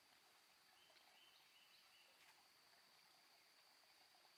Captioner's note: birds chirping